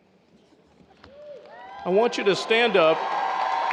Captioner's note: audience cheers